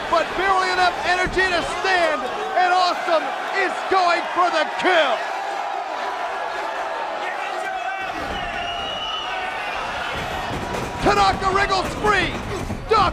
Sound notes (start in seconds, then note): 6.0 crowd cheering; 9.1 crowd cheering continues